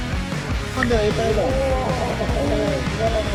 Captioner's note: laughing